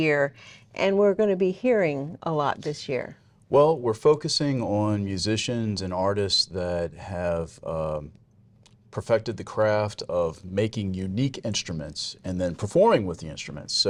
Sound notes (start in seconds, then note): none